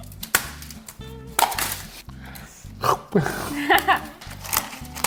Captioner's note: razzo cracking; laughing